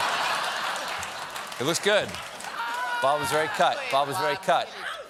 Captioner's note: laughter